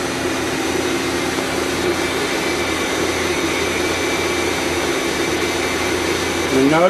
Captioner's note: machine whirs loudly